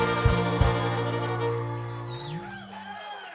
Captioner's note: applause